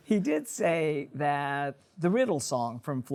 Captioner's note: chuckles